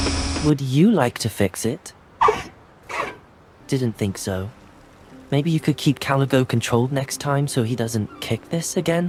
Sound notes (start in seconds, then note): 2.0 Highwing chirping resignedly